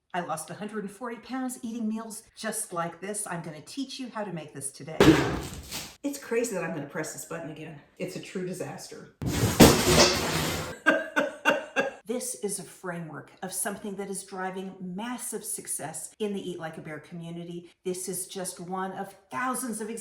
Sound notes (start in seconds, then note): 5.2 blender lid pops; 9.2 loud clattering; 10.7 woman laughing